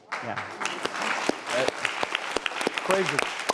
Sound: applause

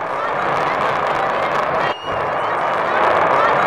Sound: sound of blastoff

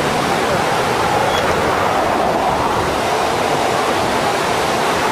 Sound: water rushing loudly

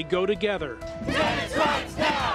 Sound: crowd

